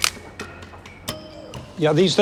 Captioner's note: snap